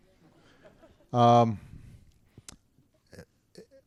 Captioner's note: laughter